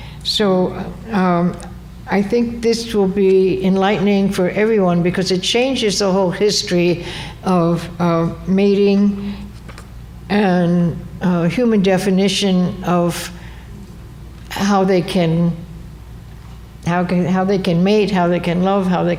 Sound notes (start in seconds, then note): none